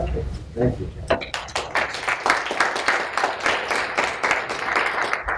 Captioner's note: applause